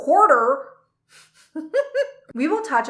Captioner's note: giggles